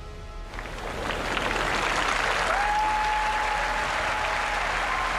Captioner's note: crowd applauding